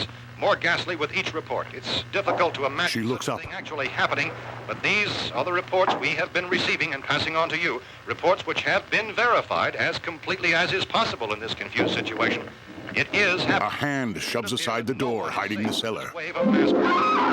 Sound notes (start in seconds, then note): 2.0 distant footsteps; 12.8 footsteps